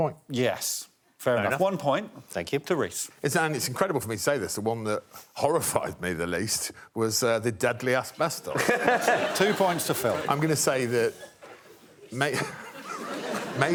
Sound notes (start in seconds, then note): 8.5 laughter; 10.7 laughs